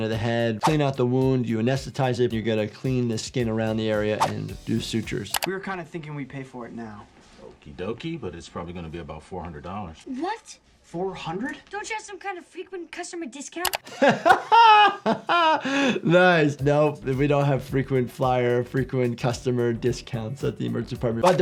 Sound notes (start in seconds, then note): 13.8 doctor laughs